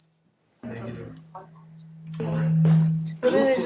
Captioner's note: speaks faintly; student speaking faintly